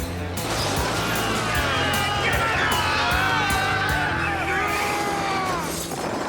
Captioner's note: poachers yelling